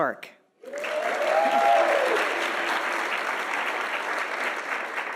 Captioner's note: audience applauding